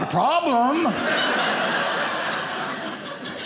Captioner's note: audience laughing